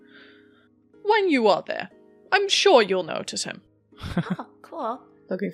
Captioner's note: Rik chuckles